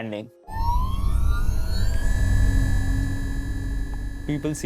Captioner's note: Static Hover System startup noises